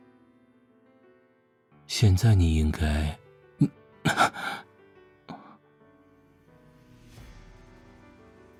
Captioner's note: gasps